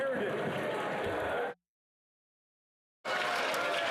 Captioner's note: cheering and Applause